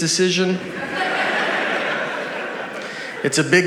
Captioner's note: audience laughs